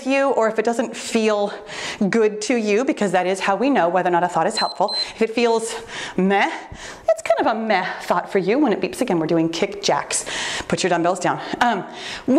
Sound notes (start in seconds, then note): 4.5 timer beeps